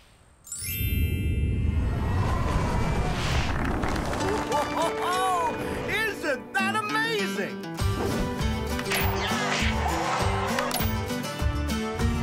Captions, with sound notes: (applause) - Whoa-hoa-hoa-hoa! Isn't that amazing? (signature tune)